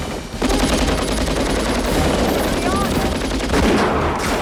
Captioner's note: Victoria Shouts